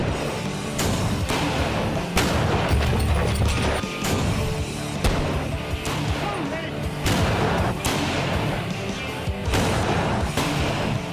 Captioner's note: gunshots